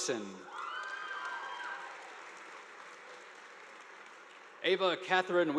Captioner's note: audience applauding